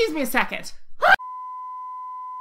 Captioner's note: screams